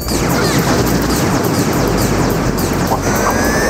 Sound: gun blasts

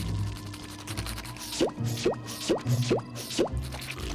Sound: popping

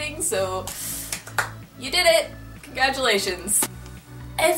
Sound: clap clap

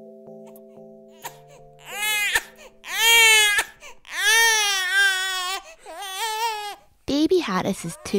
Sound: baby crying

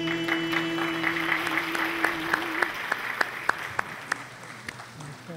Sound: audience applauding

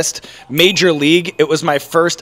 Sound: bell dings

